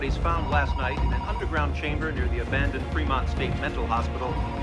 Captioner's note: telephone ringing